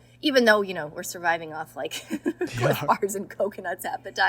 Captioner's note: laughs